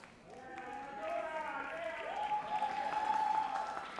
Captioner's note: audience cheers